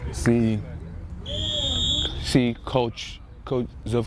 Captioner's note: whistle